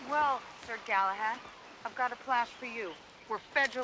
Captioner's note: none